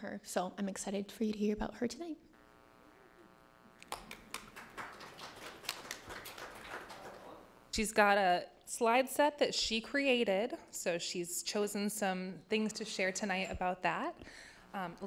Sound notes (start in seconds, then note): 3.8 clapping